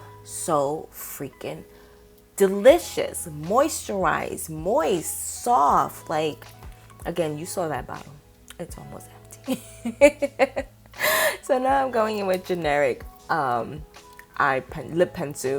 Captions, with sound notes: so freaking delicious, moisturized, moist, soft. Again, you saw that bottle. It's almost empty. (laughs) So now I'm going in with generic lip pencil